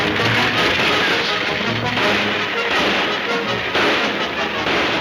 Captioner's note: gunshots banging